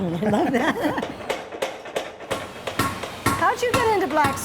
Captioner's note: laughing